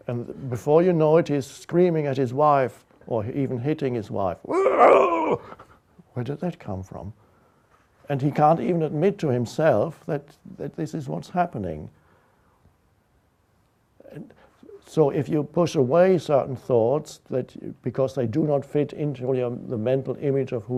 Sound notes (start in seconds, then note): 4.5 grunts